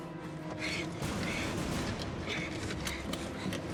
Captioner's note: panting